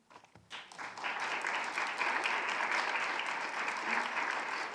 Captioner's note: audience applauding